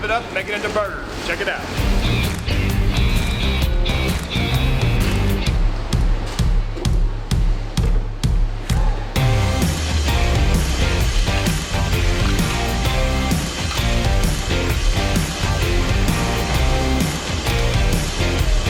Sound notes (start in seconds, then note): 9.5 machine whirring